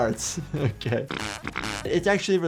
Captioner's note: gas passing